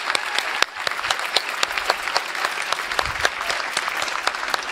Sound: applause

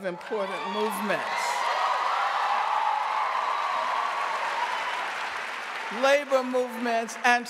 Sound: audience cheering and applauding

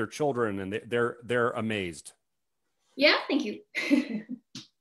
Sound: chuckles

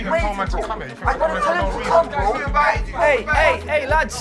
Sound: shouting

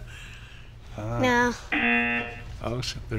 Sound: buzzer

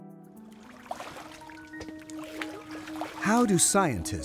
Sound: water burbling sound

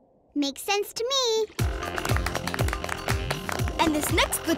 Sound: clapping

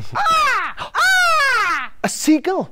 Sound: bird call

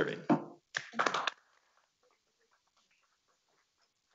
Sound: members clapping

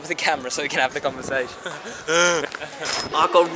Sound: big laugh

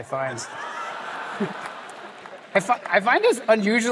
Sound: laughter

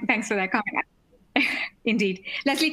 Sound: chuckles

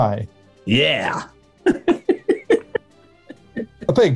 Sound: giggling

